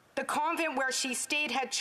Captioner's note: speaking Indigenous Language